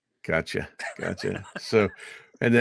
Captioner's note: laughing